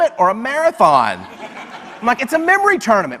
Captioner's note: audience laughs